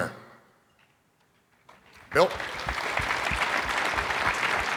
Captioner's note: audience applauding